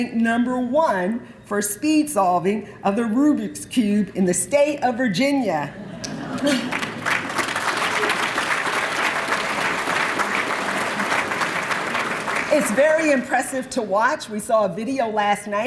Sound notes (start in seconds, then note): 6.3 applause